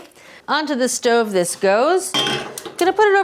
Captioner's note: metal clanging